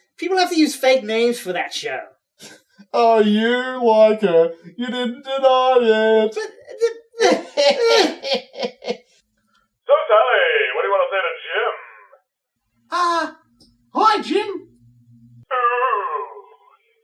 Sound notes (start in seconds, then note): 6.6 Sully chuckling; 6.6 Hulio spluttering, lost for words